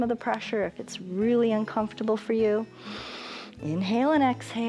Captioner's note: inhales